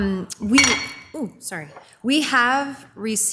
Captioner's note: glass clinks